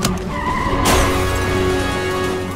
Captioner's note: ambulance